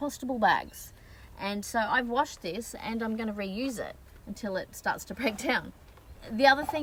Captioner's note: scoffs